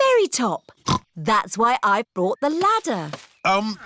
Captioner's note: snorts